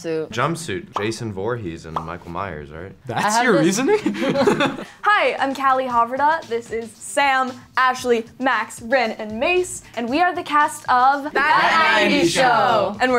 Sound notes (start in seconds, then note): 3.8 laughing